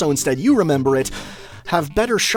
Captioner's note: inhale